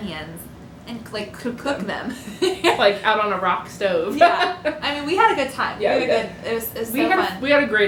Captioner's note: laughter